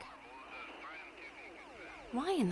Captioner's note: chatter on police radio